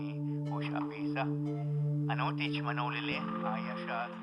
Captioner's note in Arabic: الصوت المنطوق باللغة الشوكتاو